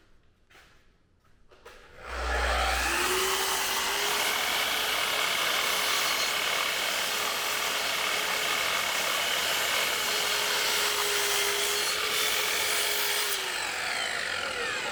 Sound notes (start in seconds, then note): 2.7 saw cutting